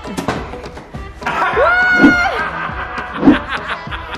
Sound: giant cube hits floor; laughs

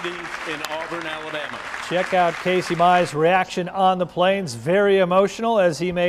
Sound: applause

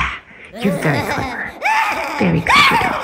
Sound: laughing

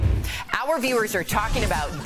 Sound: laughter

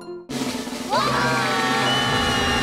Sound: screaming

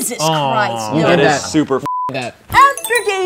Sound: beep

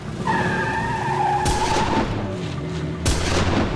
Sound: gun shots; tires peeling

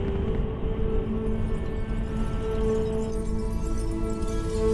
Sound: glass tinkling

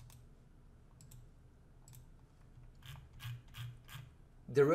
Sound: clicking and scrolling

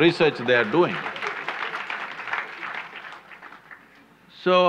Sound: applause

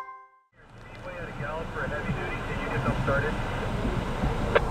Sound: radio sounds

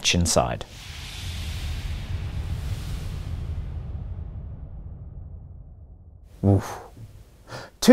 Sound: sounds of burning vapour can be heard

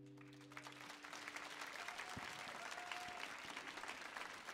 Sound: audience applauding

